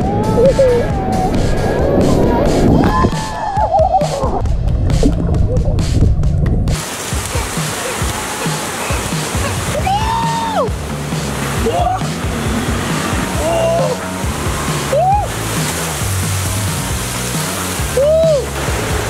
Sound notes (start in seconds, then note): 5.4 water sound effects